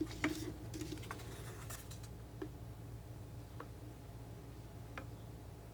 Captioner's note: scratching